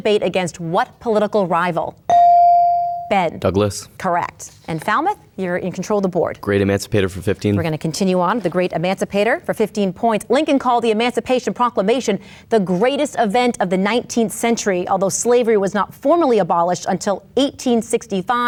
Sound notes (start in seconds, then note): 2.1 bell dings